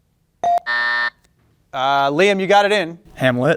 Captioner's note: bell ringing; buzzer buzzing